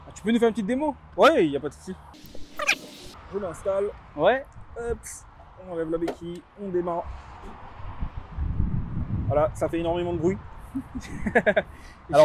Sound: laughs

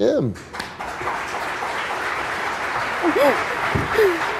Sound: audience applause

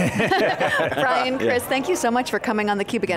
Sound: all laugh

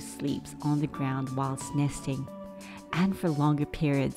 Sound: none

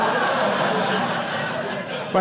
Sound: audience laughing

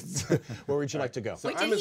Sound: man chuckling

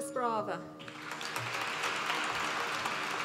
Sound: applause

